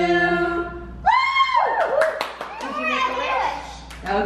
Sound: all cheering and clapping

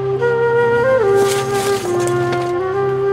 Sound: solemn flute music; leaves rustle loudly; lemons thud softly

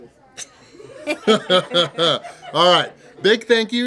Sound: hahaha

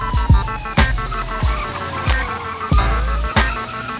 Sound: sirens blaring; tires screeching; sirens blaring

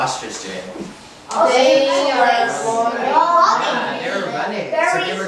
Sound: chattering

